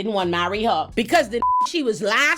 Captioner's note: beep